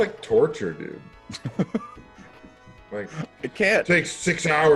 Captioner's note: laugh